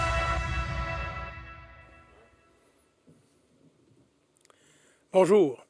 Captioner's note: silence